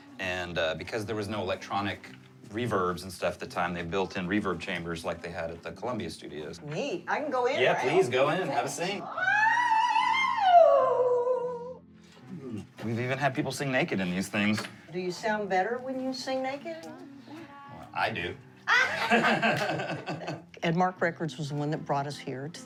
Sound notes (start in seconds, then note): 9.1 vocalizing playfully; 18.7 laughing